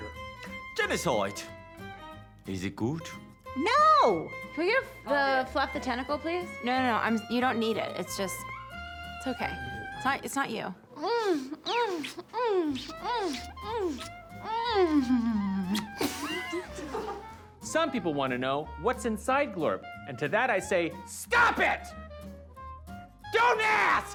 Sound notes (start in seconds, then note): 10.9 smooches, moans; 14.4 both laughs